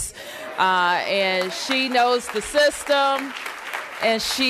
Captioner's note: applause